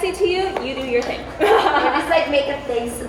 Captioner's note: laughs